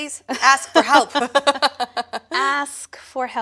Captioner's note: laughter